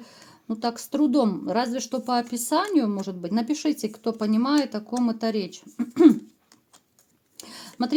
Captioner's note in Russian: откашливается